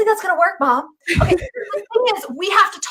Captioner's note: laughing